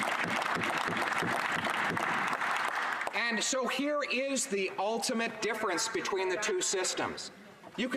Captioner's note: applause